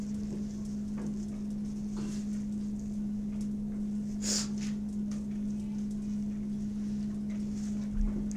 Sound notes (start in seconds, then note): 4.2 sniffs